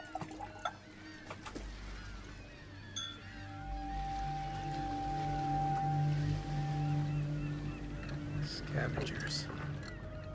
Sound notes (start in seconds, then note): 2.6 ominous music; 3.0 glasses clink